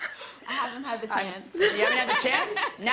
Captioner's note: laughter